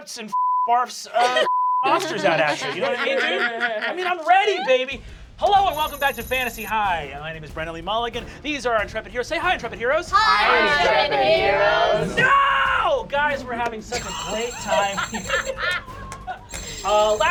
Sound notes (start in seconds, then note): 0.0 laughter; 1.8 laugher; 10.1 shouts; 13.0 normal voice; 14.3 laughter